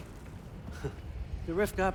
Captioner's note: laugh